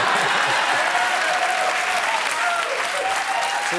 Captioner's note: applause